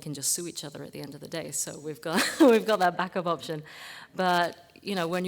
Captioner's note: laugh